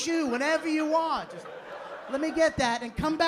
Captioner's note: laughter